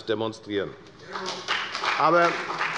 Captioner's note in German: Beifall bei der FDP und der CDU